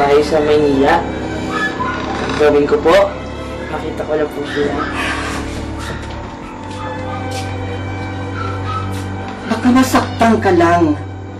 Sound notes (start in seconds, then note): 4.9 sighs